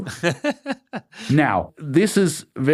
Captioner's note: laughs